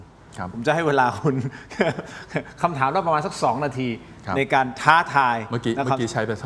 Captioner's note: laughter